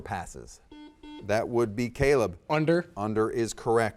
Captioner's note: buzzer dings